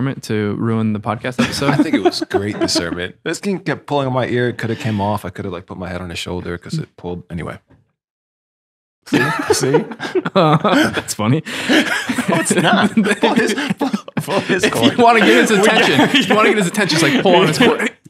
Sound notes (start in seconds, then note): 1.4 laughing; 11.4 friars laughing